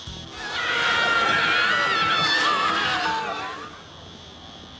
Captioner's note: people screaminf